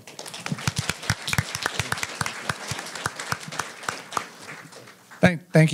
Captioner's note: applause